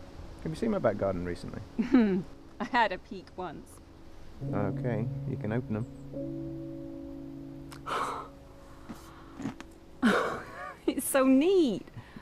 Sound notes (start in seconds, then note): 7.8 exhales